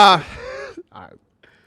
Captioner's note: laughs